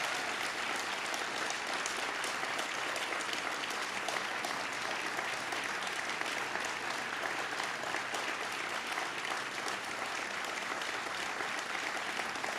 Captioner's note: cheers and applause